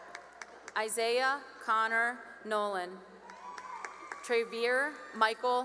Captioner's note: cheering and applause; cheering and applause